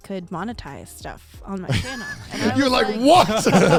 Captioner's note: men laugh